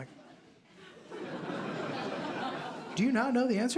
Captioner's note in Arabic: ضحك